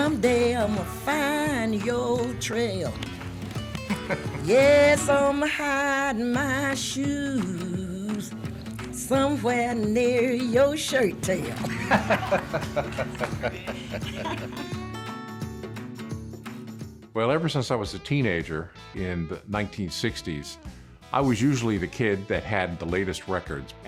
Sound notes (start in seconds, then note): 11.4 laugh; 15.5 blues music